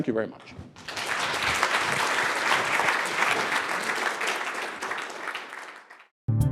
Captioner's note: applause